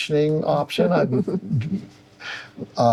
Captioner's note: laughing